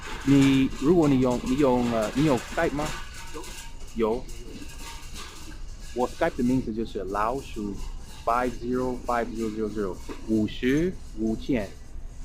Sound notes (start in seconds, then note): 2.0 mandarin